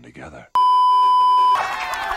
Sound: beeeeeep

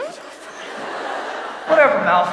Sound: audience laughs

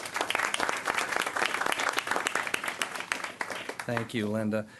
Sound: applause

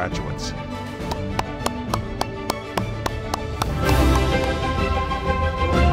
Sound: applause

